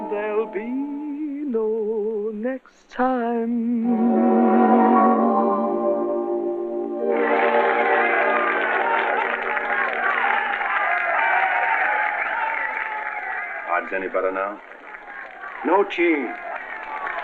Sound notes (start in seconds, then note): 7.2 applause